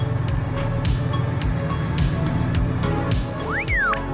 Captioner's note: 6.0L rumble; droid whistles